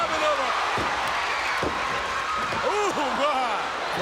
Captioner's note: crowd cheers and shouts